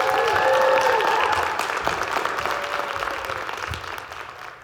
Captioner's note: audience cheering; audience clapping